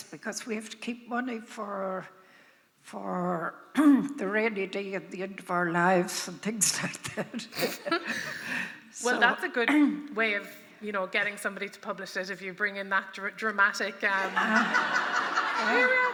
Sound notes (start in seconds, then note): 7.1 laughter; 14.2 audience laughs